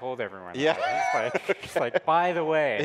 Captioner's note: laughing